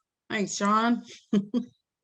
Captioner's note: giggles